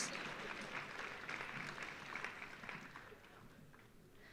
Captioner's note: audience applauding